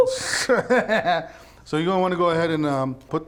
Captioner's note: laughs